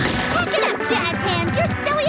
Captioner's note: laughing